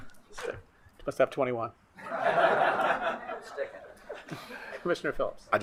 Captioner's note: attendees laughing